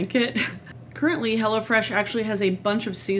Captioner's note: laughs